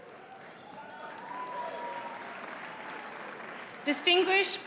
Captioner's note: audience applauds